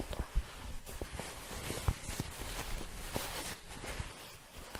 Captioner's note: shuffling, light crinkling